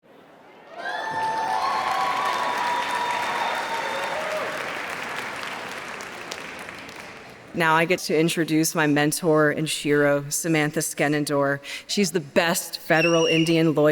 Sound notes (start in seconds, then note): 0.5 cheers; 0.8 applause